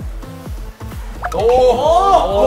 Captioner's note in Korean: 스윽